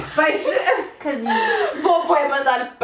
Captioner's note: laughs